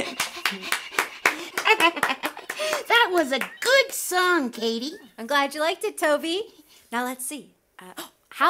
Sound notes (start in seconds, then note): 0.0 panting